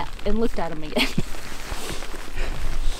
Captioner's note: laughing